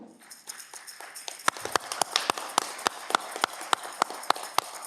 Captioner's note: audience clapping